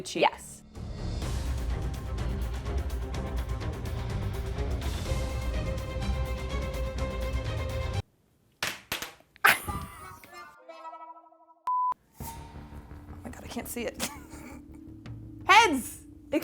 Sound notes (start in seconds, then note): 0.6 dramatic music; 10.2 sad music; 11.7 screen beeps